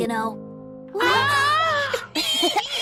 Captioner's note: surprised m0an